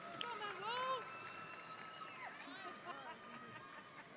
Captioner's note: audience cheering